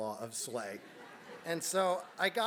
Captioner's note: laugh